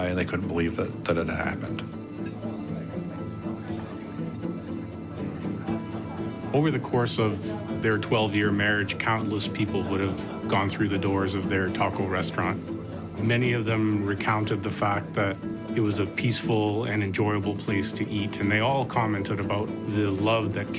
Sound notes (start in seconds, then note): 2.5 people chatting; 3.5 dramatic music